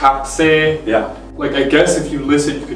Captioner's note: speaking in foreign language